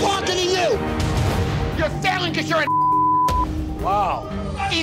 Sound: beep

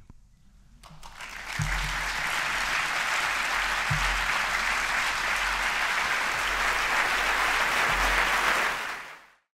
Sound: applause

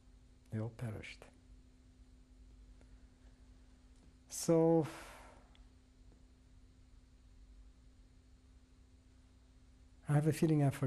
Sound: pauses for 3 seconds

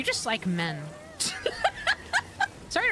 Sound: laughter

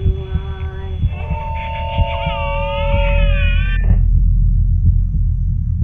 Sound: static interference builds and baby monitor goes silent

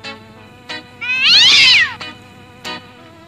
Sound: ginger Fluffy Cat Meowing

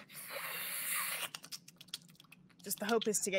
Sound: Deborah hisses

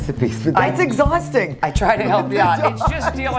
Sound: laughs

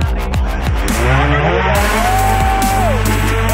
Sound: upbeat electric music; hoverboard buzzing

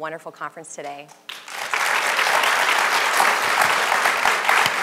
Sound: audience applause

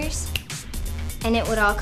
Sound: finger snap

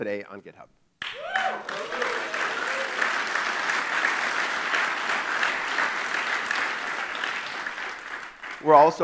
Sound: clapping

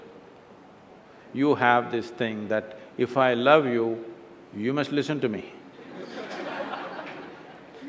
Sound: laughter

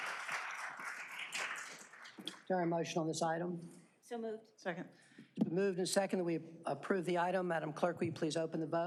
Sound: applause

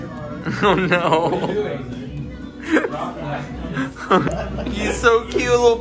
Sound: laughs

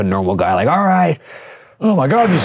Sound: panting

